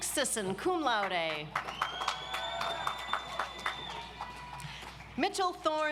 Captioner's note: audience applauds